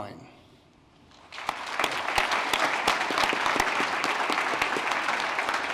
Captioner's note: applause